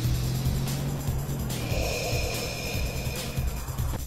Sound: deep Breath

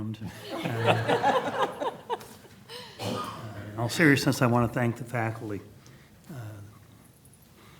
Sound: laughter

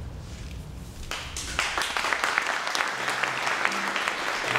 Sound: applause

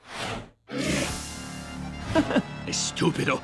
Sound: chuckles

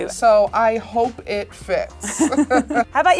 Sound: laughs

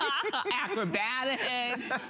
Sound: laughter

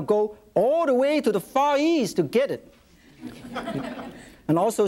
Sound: audience laughs

